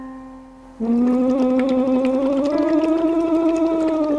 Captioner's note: bubbling